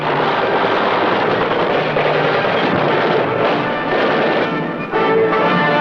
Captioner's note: gun shots; instrumental music